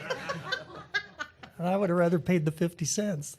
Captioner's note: laughter